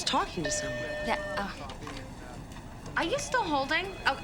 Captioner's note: phone beeps